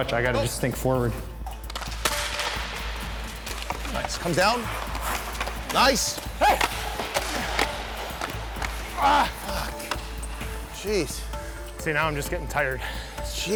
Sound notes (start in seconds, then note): 2.4 stick slapping; 6.2 yelling; 7.0 stick slapping; 8.7 groans